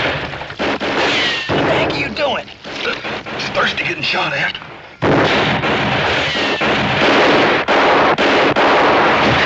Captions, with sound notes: - What the heck are you doin'? - It's thirsty getting shot at. (gunshots continue)